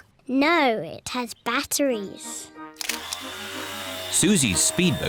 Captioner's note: whirring